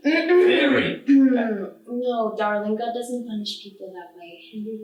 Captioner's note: clears throat to interrupt